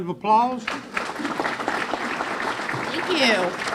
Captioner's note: clapping